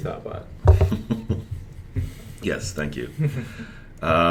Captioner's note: chuckles